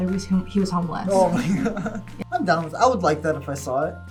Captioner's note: laughs